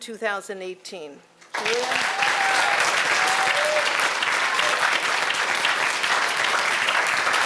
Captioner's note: applause